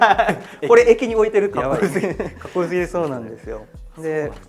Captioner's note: laughs